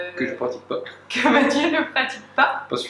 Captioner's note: laughs